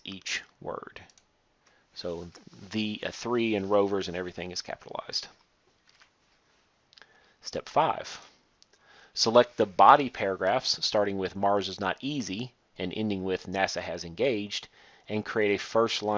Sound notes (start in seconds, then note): 0.0 click; 8.1 click